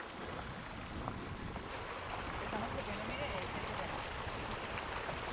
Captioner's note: speaking Spanish